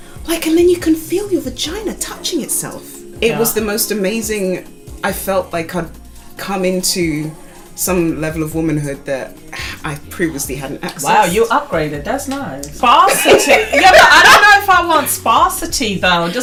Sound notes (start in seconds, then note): 12.9 laguhter